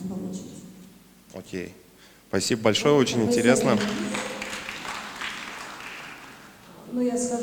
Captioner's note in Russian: аплодисменты